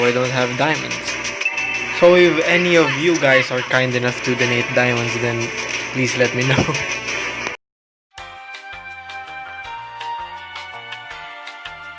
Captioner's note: chuckles